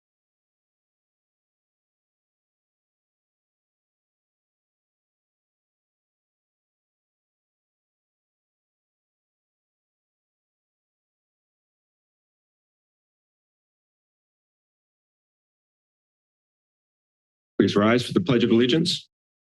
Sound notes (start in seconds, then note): 0.2 silence